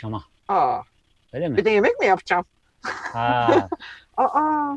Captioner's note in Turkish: kahkaha